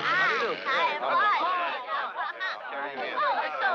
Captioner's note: all chattering